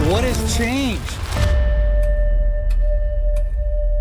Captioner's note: clock ticking